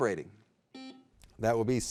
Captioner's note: buzzer beeping